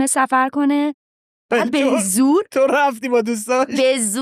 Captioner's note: laughs